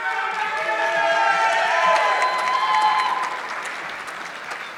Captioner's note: audience clapping